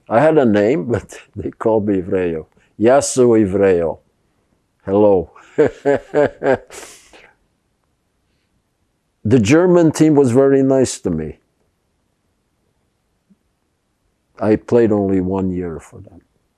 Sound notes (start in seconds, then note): 5.4 laughing